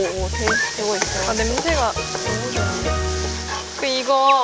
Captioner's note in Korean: 지글지글